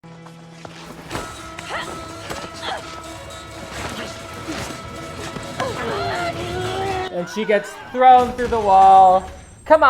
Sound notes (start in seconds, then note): 1.6 grunting; 7.0 screaming